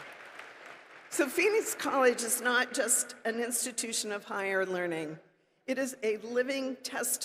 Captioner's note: applause